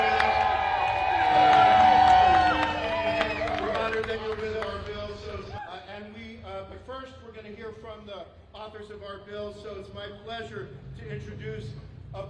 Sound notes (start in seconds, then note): 1.8 cheers and applause